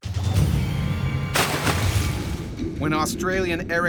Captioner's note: splash